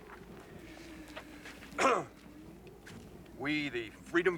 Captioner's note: clears throat